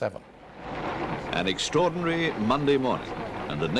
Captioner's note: voiceover